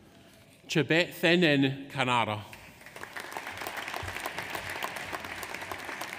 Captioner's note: audience applauds